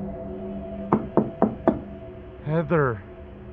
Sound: ominous music; knocking

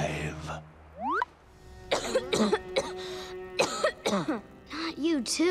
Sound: coughing

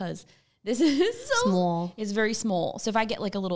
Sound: laughs

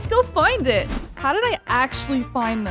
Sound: screen swoosh

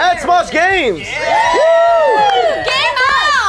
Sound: gamers cheer

